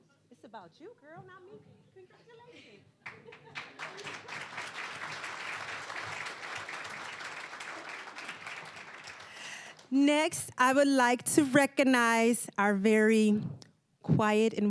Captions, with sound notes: It's about you, girl, not me. Congratulations. (applause) Next, I would like to recognize our very quiet